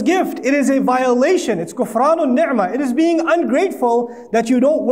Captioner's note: Arabic